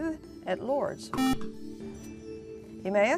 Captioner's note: buzzer